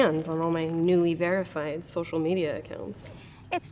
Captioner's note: none